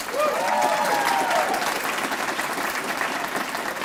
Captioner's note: applause